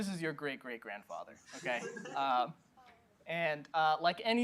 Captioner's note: laughter